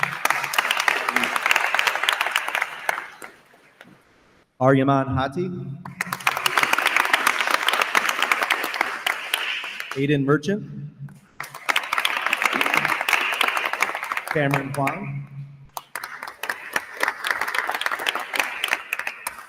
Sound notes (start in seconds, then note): 0.0 attendees applauding; 5.9 attendees applauding; 11.4 attendees applauding